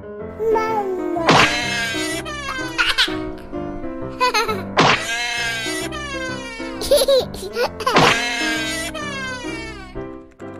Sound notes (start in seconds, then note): 5.0 cries in baby